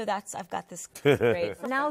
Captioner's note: laughs